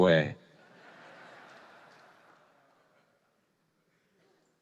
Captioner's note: audience laughing